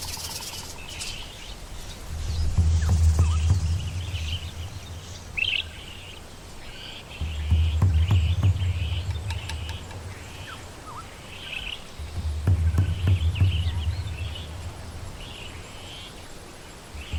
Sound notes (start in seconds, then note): 2.4 birds chirping